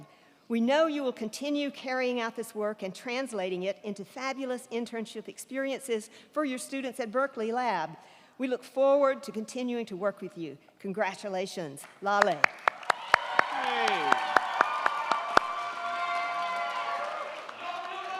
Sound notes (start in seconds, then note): 12.2 crowd clapping; 12.6 crowd cheering